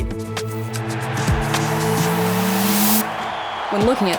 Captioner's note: crowd cheering